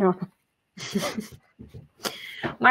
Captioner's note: chuckle